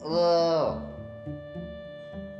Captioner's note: groaning